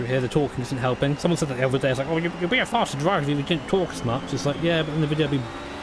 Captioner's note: mockingly